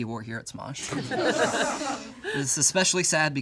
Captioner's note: all laugh